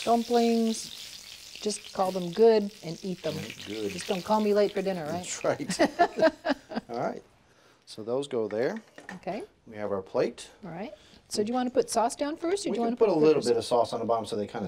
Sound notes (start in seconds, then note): 5.6 both laugh